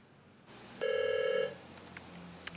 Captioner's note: phone rings